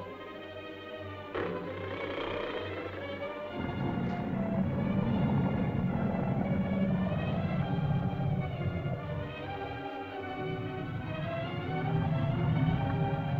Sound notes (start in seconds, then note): 0.0 suspenseful music; 1.3 lizard growls